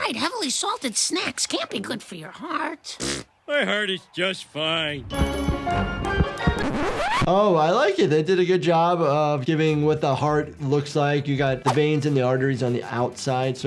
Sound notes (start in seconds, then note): 4.9 upbeat music; 5.1 heart thumping; 6.2 video scratching